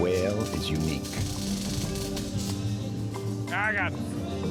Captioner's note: electrics sparking